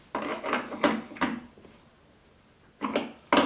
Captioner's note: creaking